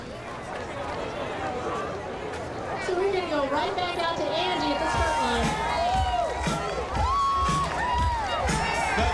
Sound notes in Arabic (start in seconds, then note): 0.7 ثرثرة في الخلفية; 4.8 موسيقى حماسية; 7.1 هتاف